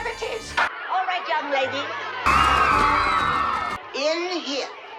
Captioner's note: girls scream